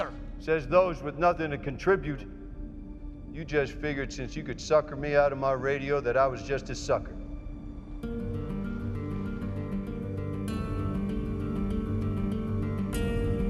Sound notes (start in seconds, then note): none